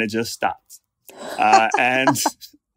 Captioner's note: laughs